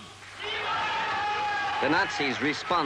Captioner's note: crowd cheering